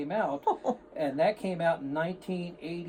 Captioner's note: male offscreen chuckles